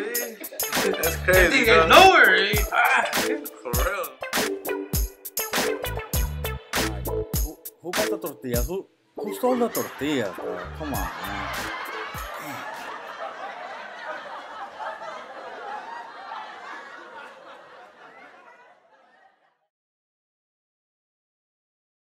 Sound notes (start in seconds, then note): 0.0 audience Laughters; 13.7 audience laughter closing